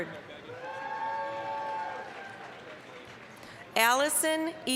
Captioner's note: applause, cheering